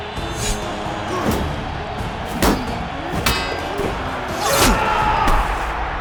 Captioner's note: grunts; shouts from the crowd